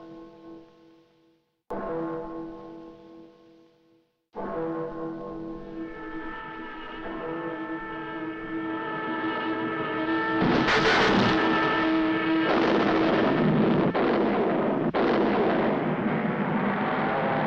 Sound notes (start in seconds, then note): 7.8 suspenseful music; 10.4 rocket thuds